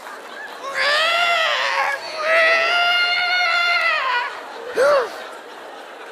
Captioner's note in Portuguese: choro de bebê